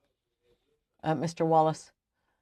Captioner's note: speaking French